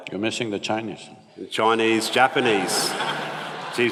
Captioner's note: laughter